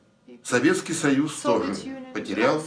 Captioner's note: foreign language